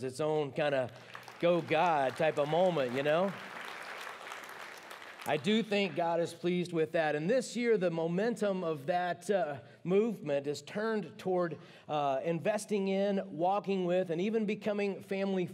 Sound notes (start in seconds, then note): 0.6 applauding; 4.5 applause